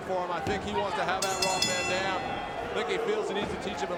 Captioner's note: bell ringing